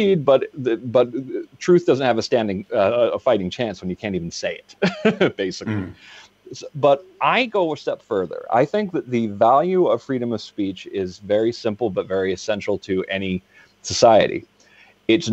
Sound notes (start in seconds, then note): 5.6 laughs